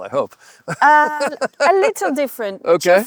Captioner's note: en riant